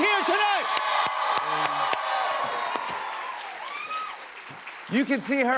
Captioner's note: cheers and applause